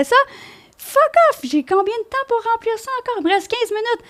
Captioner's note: in french